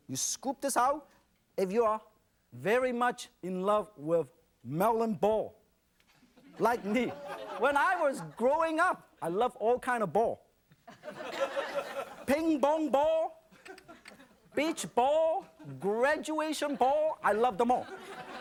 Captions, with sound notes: You scoop this out, if you are very much in love with melon ball like me. (audience laughs) When I was growing up, I loved all kind of ball. (audience laughs) Ping pong ball, beach ball, graduation ball, I loved them all.